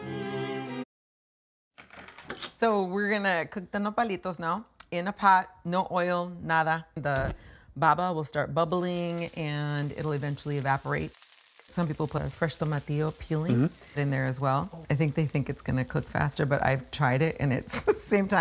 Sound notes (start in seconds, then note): 6.6 flame whooshes